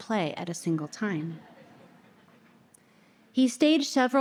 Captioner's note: audience laughter